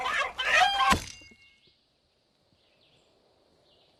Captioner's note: chicken clucking ends abruptly